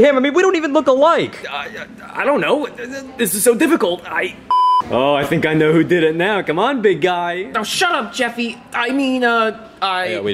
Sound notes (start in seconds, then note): 4.5 beeps